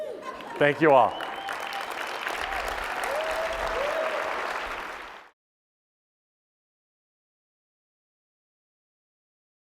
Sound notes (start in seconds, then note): 0.2 applause